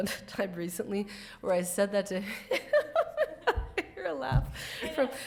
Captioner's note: laugh